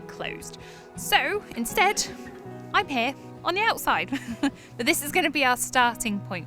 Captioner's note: chuckles